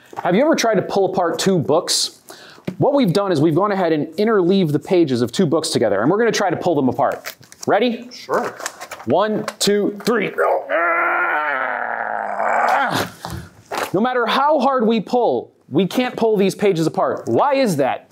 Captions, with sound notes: Have you ever tried to pull apart TWO BOOKS? What we've done is we've gone ahead and interleaved the pages of two books together, and we're going to try to pull them apart. Ready? Sure! 1... 2... 3... [both grunting like angry ogres] No matter how hard we pull, we can't pull these pages apart. Why is that?